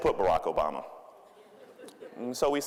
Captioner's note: audience laughing